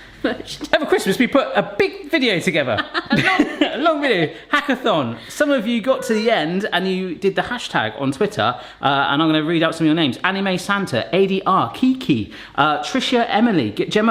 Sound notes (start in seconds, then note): 2.7 chuckles